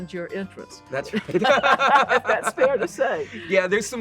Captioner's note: both laugh